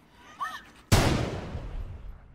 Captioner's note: gunshot fires